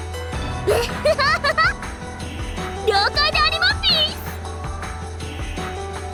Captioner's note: giggle